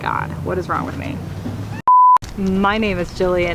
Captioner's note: beep